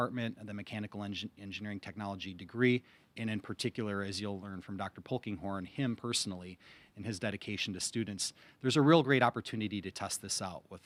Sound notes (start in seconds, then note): none